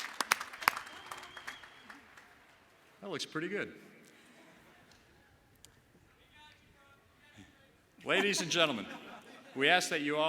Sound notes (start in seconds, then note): 3.7 applause